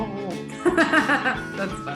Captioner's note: laughs